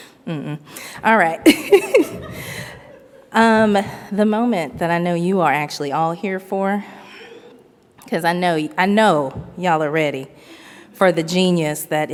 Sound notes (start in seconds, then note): 1.4 laughs; 1.5 audience laughs